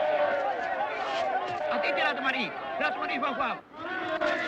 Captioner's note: shouting in foreign language